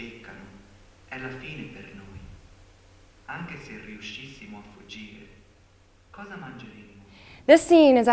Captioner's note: speaking foreign language